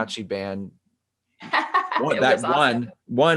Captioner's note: laughing